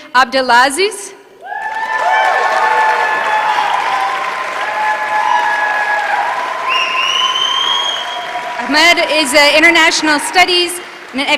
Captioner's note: applause